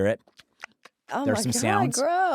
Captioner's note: lips smacking